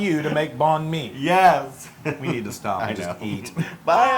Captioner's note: laugh; laugh